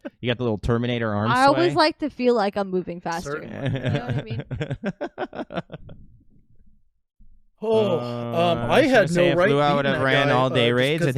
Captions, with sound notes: little Terminator arm sway. - I always like to feel like I'm moving faster. - Certainly. (laughing) - Oh, I had no right thing that guy thought. - So if Lou I would have ran all day raids,